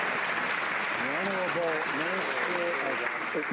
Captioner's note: some Applause